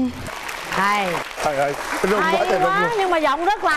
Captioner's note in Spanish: aplauso